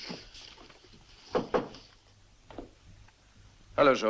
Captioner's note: knocking